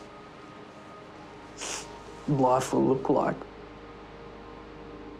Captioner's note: sniffles